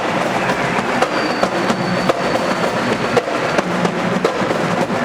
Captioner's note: audience applauding